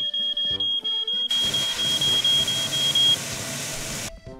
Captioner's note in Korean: 촤아아아아악